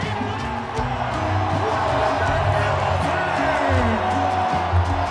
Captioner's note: spectators cheering